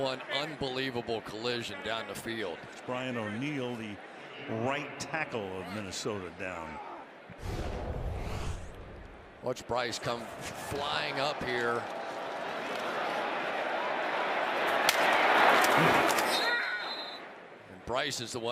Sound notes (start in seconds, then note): 15.5 helmet cracking; 16.3 whistle